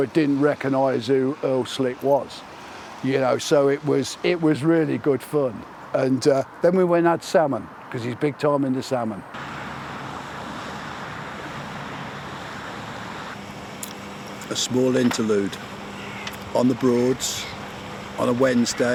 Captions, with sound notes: but didn't recognize who Earl Slick was, you know, so it was, it was really good fun, and then we went and had salmon, 'cause he's big time into salmon. (water lapping) A small interlude, on the Broads, on a Wednesday,